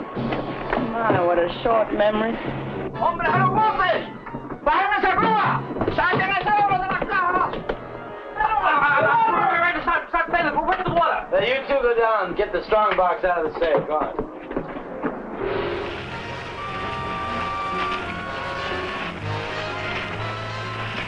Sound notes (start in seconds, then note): 2.0 General Tostada speaking in Spanish; 8.4 stutters; 14.4 intense instrumental music; 18.8 water swishing